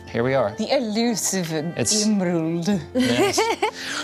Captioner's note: laughs